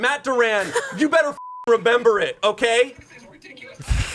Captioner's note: beep